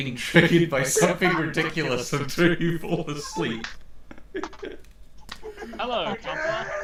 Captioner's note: laughing